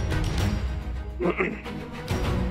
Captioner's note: clearing throat